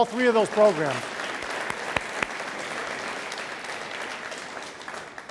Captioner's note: audience applauds